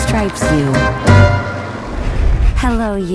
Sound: wheels rolling

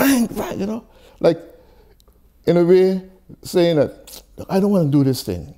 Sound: sucks teeth

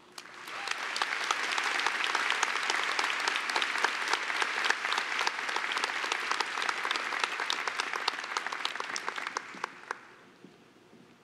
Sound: applause

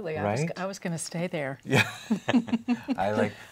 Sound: laughs

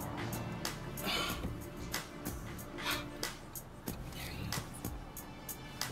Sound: Jacquelin sighs

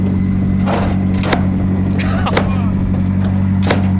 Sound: metal clanking

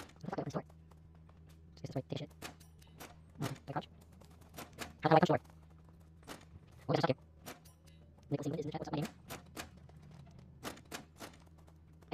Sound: sped up gibberish

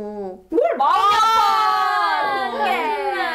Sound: the crowd boos

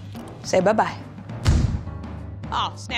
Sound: explosion bangs

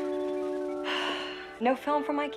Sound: sighs

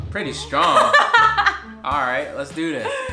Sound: laughs

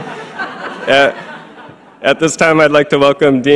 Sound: laughs; audience laughing

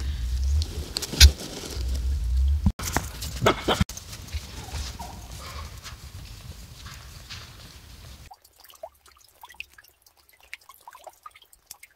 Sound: laughter

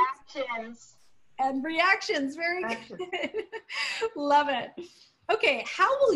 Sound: laughter

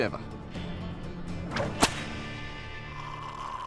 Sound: whip cracking; slurping

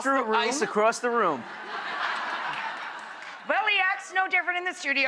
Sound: audience laughs

